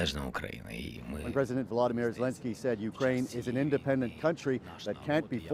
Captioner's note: speaking alternate language